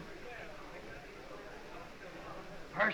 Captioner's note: whispering